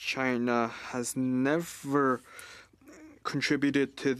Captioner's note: speaking French